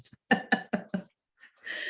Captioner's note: chuckles